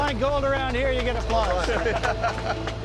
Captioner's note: laughter